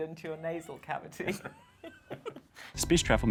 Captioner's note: laughing